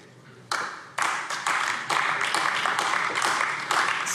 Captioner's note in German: Beifall AfD